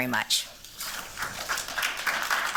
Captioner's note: applause